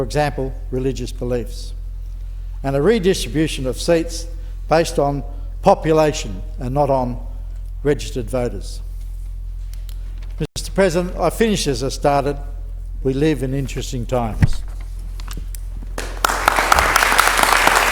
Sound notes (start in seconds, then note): 16.0 applause